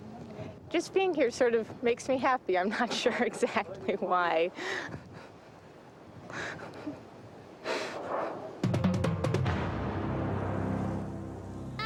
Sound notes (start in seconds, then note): 5.3 chuckling; 8.6 dramatic drumming music